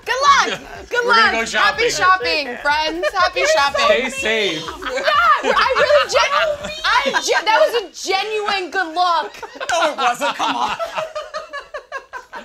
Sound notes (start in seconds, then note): 8.0 all laughing